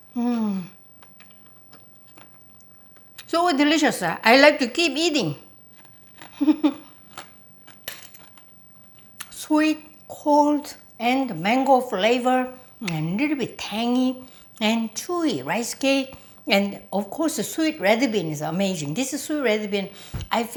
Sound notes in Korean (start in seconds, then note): 6.3 웃음소리